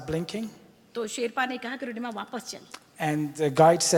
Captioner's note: speaks foreign language